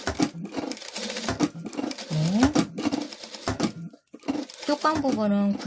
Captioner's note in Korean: 미싱소리